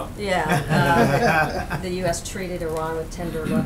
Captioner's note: laughter